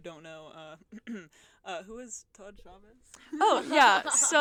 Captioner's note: clears throat